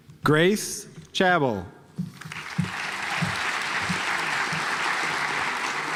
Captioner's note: audience applauds